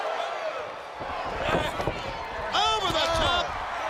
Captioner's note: crowd chatter